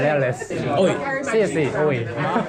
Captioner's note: laughter crackles